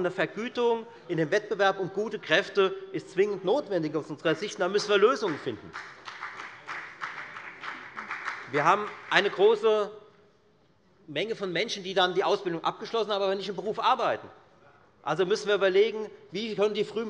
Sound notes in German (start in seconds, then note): 5.0 Beifall bei der FDP